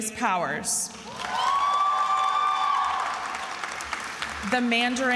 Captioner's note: attendees applauding and cheering